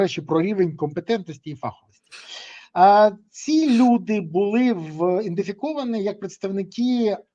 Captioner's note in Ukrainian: сопіння